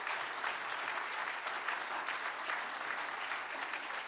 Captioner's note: applause